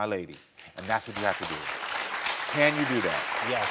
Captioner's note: audience applauding